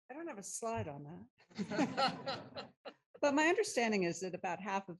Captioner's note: laughter